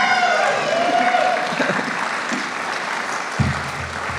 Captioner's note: applause